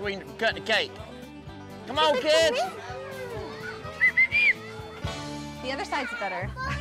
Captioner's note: whistles